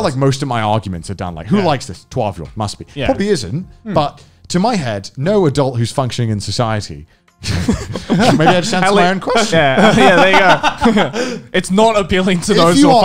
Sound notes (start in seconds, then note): 7.4 men laughing; 10.9 laughing